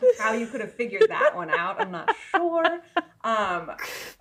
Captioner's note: laughing